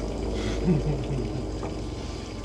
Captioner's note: laughing